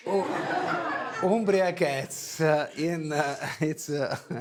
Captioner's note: laughs